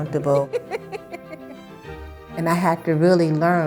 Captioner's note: laughing